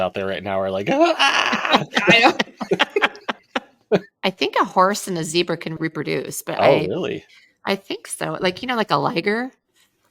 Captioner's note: laughter